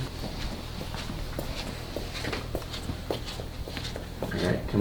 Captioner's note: heavy footsteps